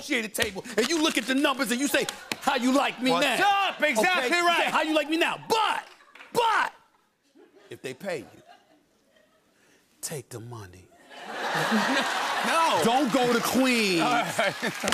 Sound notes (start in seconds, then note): 11.1 laughter and applause